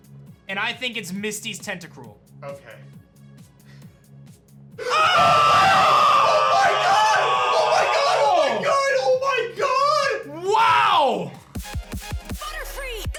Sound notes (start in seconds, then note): 4.8 screams; 11.5 introduction music